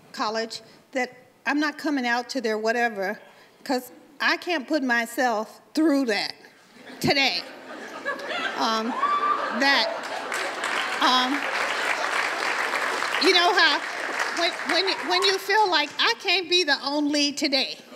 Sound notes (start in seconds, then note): 7.4 audience laughs and cheers; 9.9 applause